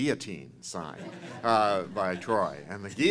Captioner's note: laughter